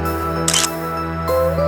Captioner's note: photo click